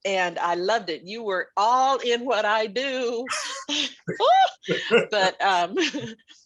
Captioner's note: laughing